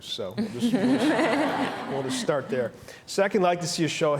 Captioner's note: laughter